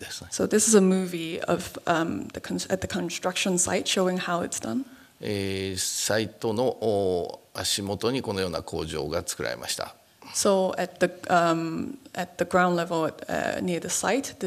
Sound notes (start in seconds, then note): 5.1 speaking japanese